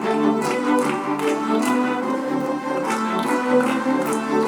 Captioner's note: audience clapping